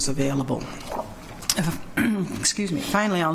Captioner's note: clears throat